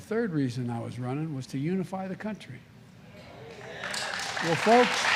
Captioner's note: applause